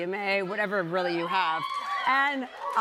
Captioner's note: scattered cheers